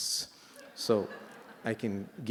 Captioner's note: laughter